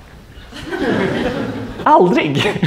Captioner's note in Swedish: skratt